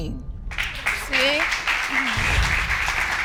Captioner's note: audience applauds